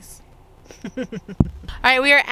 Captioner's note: chuckles